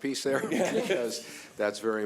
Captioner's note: laughing